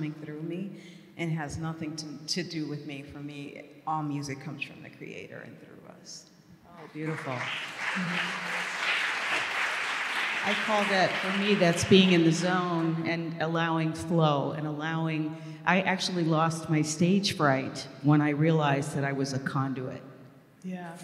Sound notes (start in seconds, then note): 6.8 applause